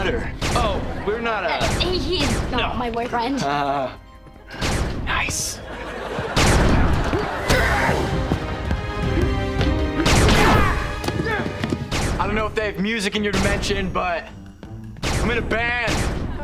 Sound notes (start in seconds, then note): 7.3 grunting